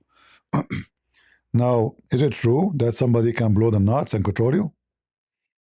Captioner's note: berdehem